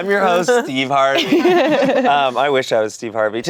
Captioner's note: everyone laughs